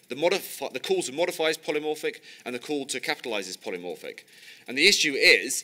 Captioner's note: none